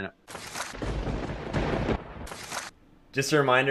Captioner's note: thunder cracking